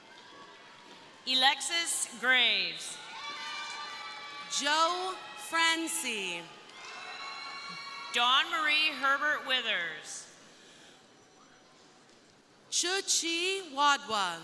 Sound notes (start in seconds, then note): 2.8 crowd cheering; 3.0 crowd applauding; 7.2 crowd cheering